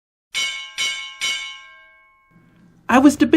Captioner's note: bell ringing